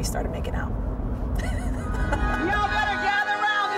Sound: laughs

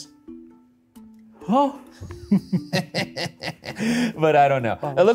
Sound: laughs

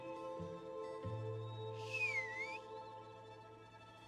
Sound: whistles

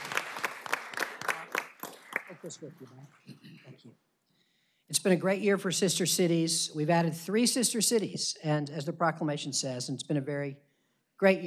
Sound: applause

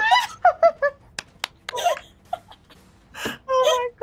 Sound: claps; laughs

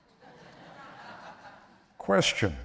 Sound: laughter

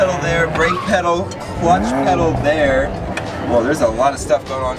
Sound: engine roaring; tires squeaking; engine revving

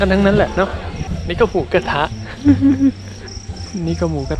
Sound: laugh

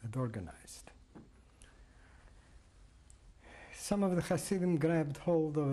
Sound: pauses for 3 seconds

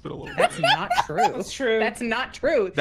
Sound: laughs

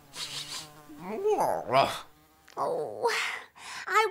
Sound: sniffs / whimpers

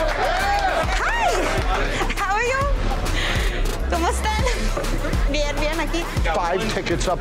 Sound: speaking Spanish

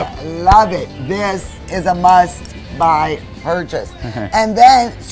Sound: giggles

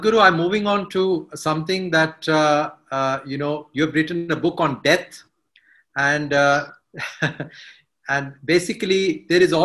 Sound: laughs

